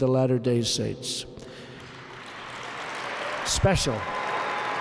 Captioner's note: applause